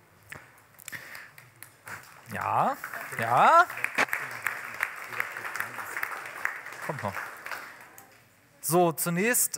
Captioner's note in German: Applaus